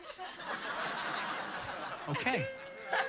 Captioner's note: audience laughing